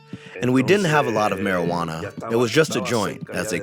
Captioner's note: through translator